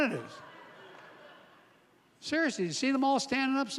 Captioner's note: laughter